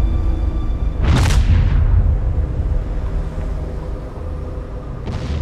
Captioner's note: droning instrumental music; reverberating booms